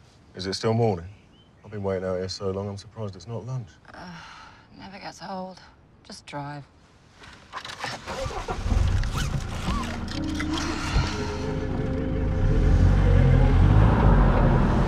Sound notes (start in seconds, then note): 7.5 engine starts; 12.3 engine revs